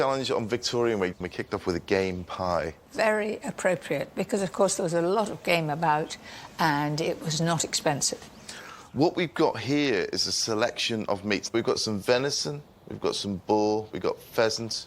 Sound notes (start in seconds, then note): none